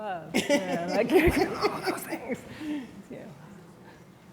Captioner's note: laughing